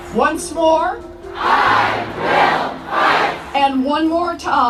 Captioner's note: crowd